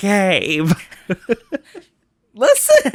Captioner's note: laughs